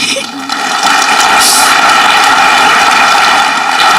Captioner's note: audience clapping